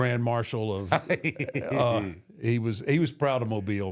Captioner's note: Michael laughs